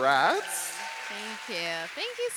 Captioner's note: audience cheering and applauding